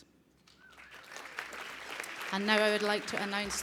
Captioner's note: applause